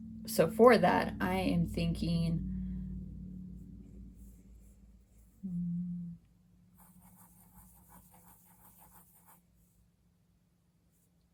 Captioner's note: scratching from pencil